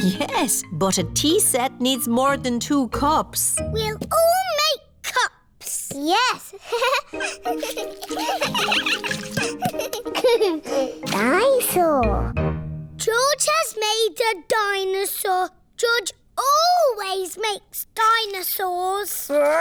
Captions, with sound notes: Yes. But a tea set needs more than two cups. -We'll all make cups! -Yes. (GIGGLES) (ALL GIGGLING) Dinosaur! George has made a dinosaur. George always makes dinosaurs!